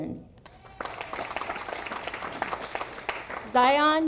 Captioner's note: audience applauding